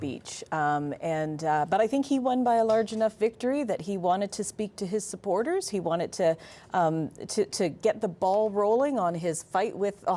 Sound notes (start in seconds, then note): none